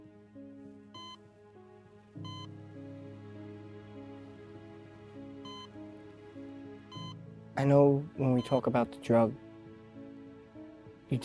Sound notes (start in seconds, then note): 2.2 machine continues beeping; 3.1 reflective music continues